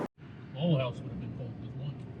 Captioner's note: background mumbling